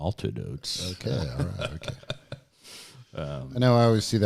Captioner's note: laughs